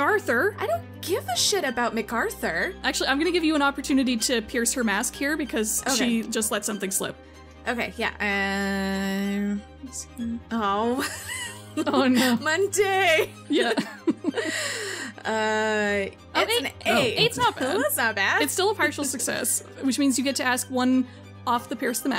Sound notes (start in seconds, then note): 10.8 laughs; 16.9 laughs